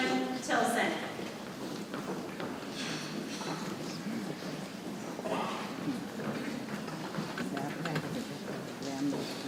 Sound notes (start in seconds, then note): 1.9 people chattering softly